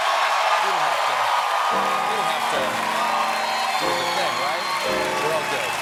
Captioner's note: cheers and applause